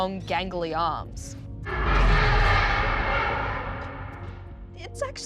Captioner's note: roaring